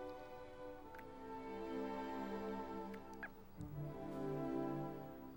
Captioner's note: lips smacking